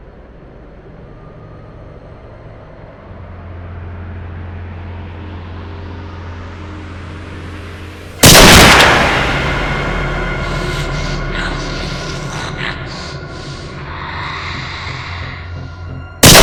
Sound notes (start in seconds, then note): 0.2 suspenseful noise; 8.2 gun blasting; 11.6 Terry Slade groaning; 14.6 dramatic music; 16.2 gun blasting